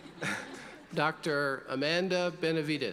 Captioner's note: audience laughing